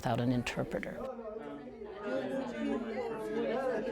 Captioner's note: students and tutors chatting